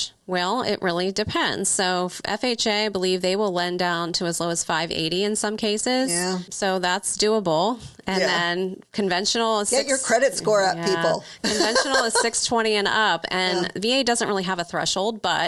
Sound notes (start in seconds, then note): 10.9 laughs